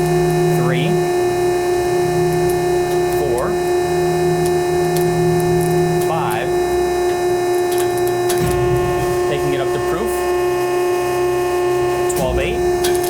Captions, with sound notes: 3, 4, 5. (sling crackling) Taking it up to proof. 12,8.